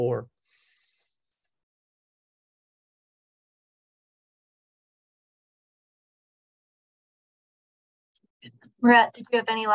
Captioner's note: silence